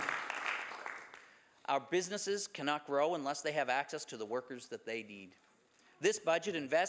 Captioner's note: some Applause